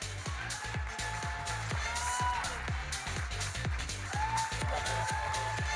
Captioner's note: audience cheering and applauding